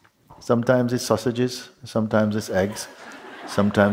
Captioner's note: laughter